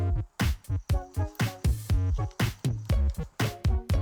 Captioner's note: birds chirp